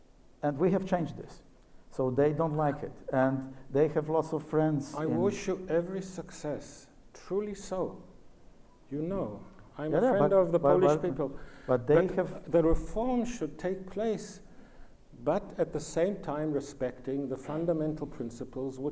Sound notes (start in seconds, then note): none